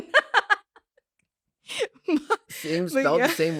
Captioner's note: laughs